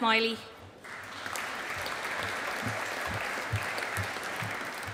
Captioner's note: audience applauding